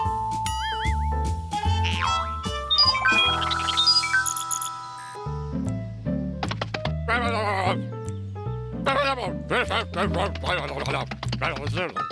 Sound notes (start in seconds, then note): 2.1 beeping